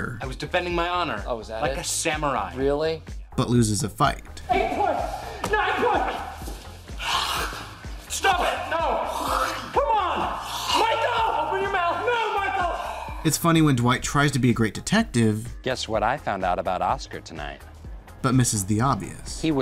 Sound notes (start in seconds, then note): 6.8 hocking a loogie; 9.8 hocking